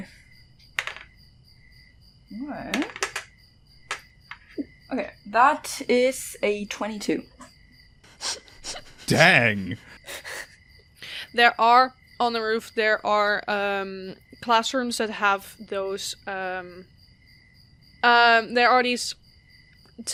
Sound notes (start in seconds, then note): 2.7 dice clacks; 5.4 more dice clacks; 8.2 chuckles